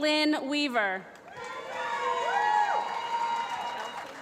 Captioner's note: applause